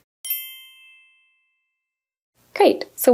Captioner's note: soft chimes